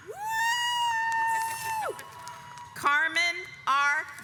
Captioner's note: cheers; audience applauds